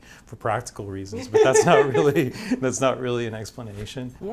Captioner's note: laughs